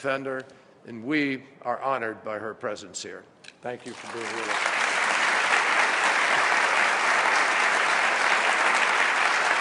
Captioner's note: applause